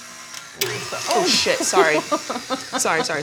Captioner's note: Claire laughing